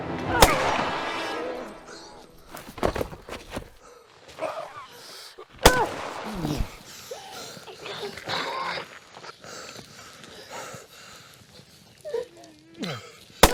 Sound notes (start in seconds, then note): 0.3 Barry panting; 0.3 gunshot blasts; 5.6 gunshot blasts; 6.2 Eleanor grunts; 8.2 Barry panting; 8.2 attacker gasping